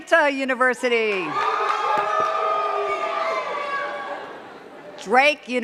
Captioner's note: cheers and claps